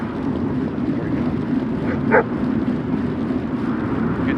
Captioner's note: dog Bark